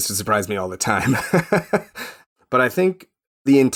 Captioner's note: chuckling